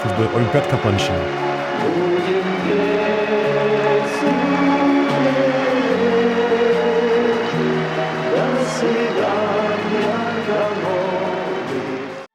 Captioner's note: applause